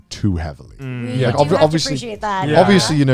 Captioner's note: guys humming in agreement